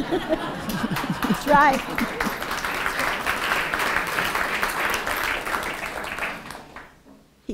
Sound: applause

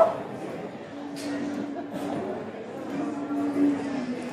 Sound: laughter

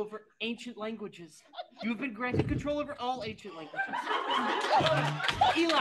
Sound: AUDIENCE laughs

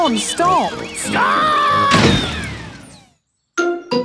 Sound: thuds

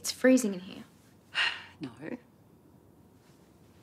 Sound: sighs

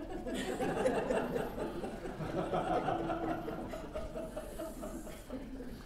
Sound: laughter

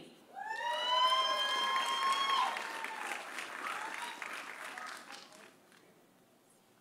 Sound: audience cheering; audience applauding

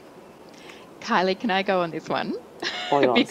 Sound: chuckling

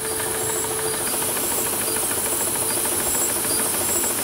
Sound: the machine rattles

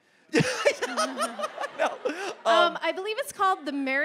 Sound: MatPat laughing

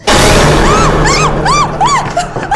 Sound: screams

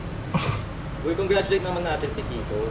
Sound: snickers

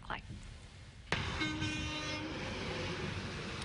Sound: truck honk

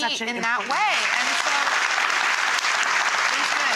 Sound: audience applause

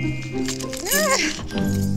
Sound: frustrated Rambling

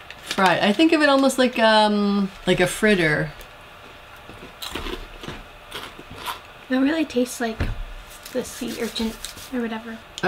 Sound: crunch

